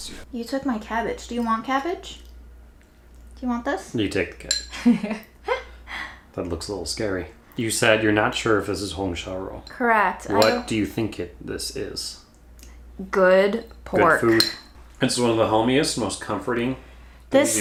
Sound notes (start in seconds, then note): 4.7 laughs